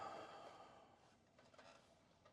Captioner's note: sighs